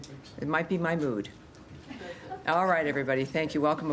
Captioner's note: laughter